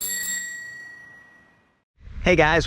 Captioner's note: bell ringing